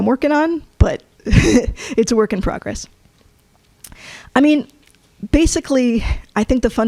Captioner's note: chuckles